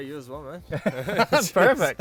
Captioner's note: laughing